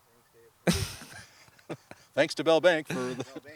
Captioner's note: laughing